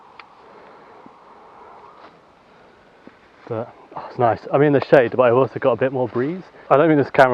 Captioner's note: breathing